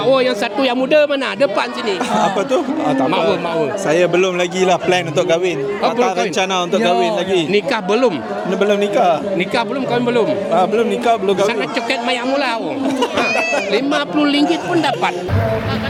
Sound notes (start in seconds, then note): 12.7 laugh